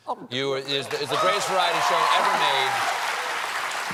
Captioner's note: applause; cheers and applause